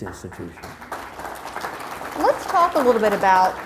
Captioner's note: crowd applauds